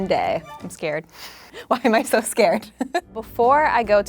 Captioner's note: laughs